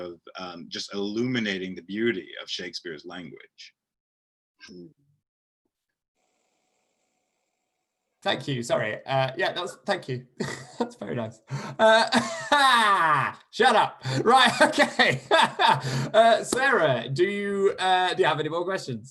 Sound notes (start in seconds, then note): 12.9 laughter; 14.2 laughs